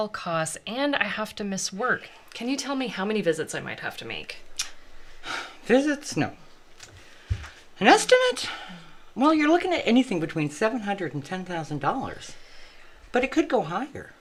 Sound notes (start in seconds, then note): 5.2 sighs